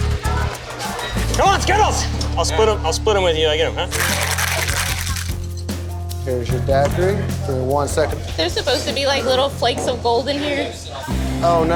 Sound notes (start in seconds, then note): 3.9 ice shaker clacking